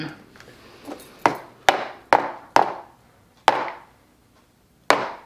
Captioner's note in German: Tasse klopft auf den Tisch